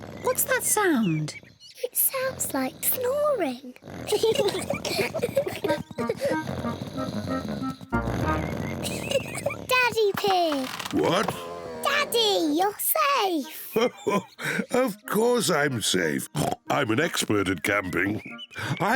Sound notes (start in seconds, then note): 4.0 both laugh; 6.2 snoring; 8.2 laughs; 13.4 laughs; 16.2 oinks